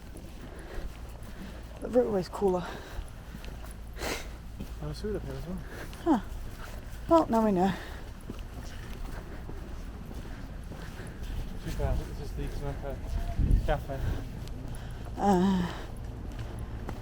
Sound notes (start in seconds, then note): 3.9 laughs